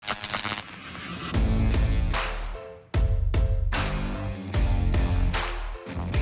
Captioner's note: electricity sizzles; upbeat music